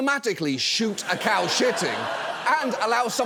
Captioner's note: audience laughs